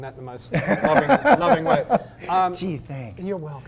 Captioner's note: laugh